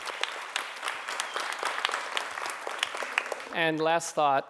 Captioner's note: crowd applauding